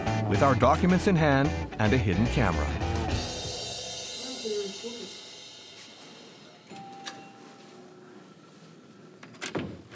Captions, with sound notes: with our documents in hand and a hidden camera. (doorbell rings)